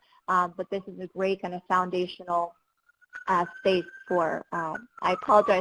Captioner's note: sirens